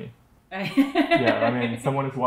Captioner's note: laughing